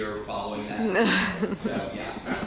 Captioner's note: group laughs